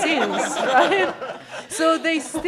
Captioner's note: laughter